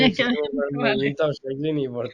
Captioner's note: laughts